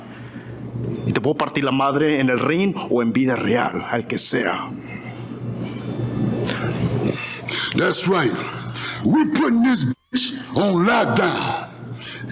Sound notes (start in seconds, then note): 1.1 speaking Spanish